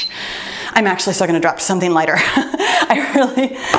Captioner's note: laughs